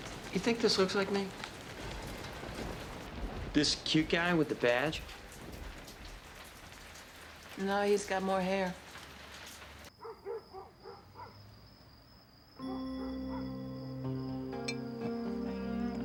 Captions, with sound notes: You think this looks like me? This cute guy with the badge? - No, he's got more hair. (dog barking) (suspenseful music)